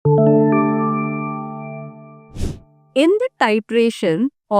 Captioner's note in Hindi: नाक से की जाने वाली आवाज़